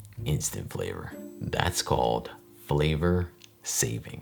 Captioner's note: none